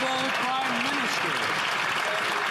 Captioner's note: some Applause